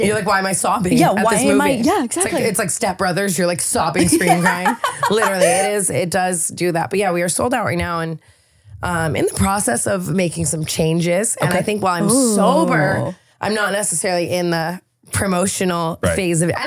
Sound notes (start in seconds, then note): 5.6 laughing